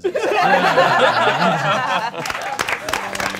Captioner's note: all laughing; all applauding